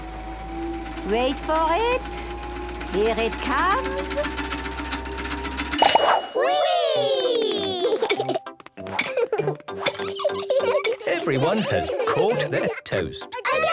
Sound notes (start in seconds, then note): 0.0 super toaster vibrating; 5.2 pings